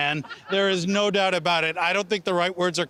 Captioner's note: laughing